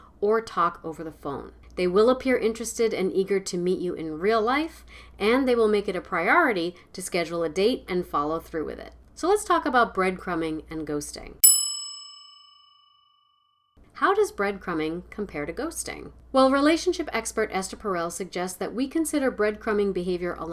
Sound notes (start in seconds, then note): 11.4 bell rings